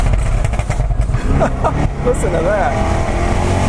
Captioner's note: laughs